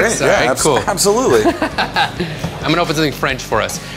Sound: laughs

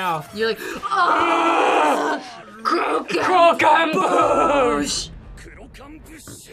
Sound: both groan loudly

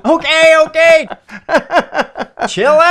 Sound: more laughter

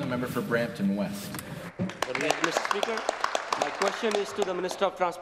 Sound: applause

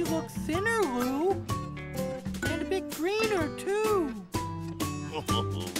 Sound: chuckling

